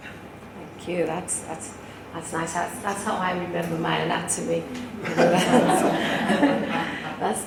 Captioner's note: laughter